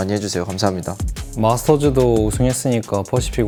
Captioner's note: BuZz